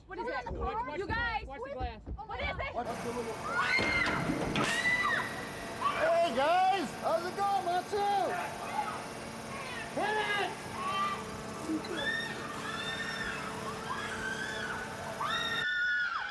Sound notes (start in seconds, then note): 3.4 group screaming; 11.5 group screaming